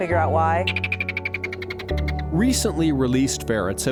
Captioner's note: ferret chirping